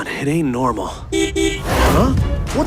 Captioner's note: horn